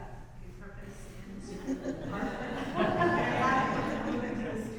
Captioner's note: audience laughs